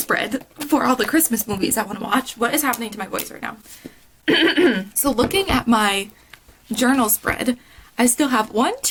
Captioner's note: excessive coughing